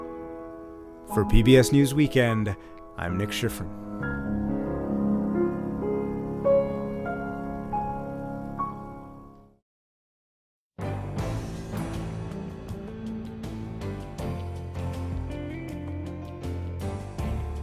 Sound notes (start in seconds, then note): 3.0 voice-over